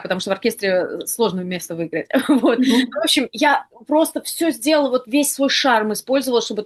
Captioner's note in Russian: смех